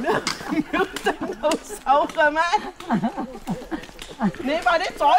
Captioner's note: Cantonese